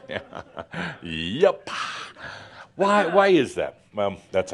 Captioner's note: chuckles